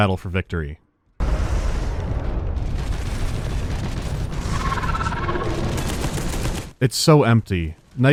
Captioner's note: sparse gunshots and enemy sounds